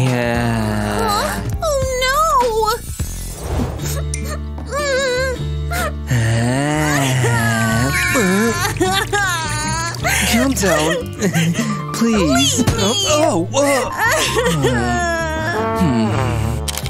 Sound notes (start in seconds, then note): 7.4 crying; 9.0 roaring